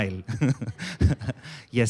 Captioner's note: chuckles